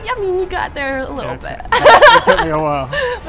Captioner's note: laughs